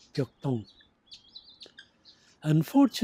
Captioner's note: foreign language